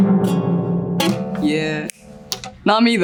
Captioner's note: oud strumming; fingers snapping